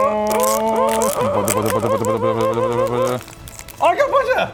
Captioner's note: excitement overload sounds